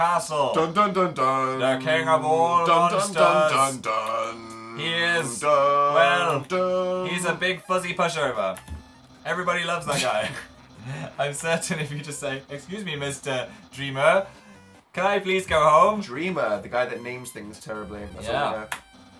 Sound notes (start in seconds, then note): 0.4 sings ominously; 5.8 duuuun; 10.7 both snigger